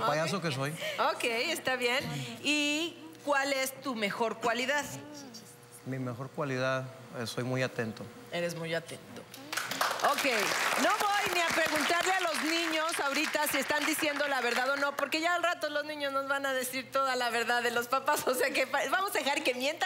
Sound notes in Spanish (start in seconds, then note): 11.8 Aplausos